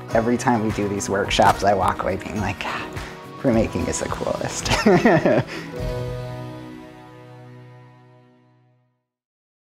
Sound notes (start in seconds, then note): 4.6 gentle music fades; 4.6 laughs